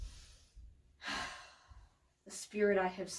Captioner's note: sighs